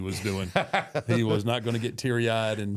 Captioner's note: Michael laughs